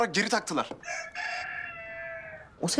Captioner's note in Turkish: Hayvan sesi